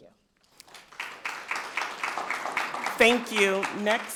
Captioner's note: people clapping